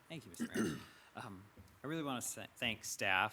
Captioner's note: clearing thought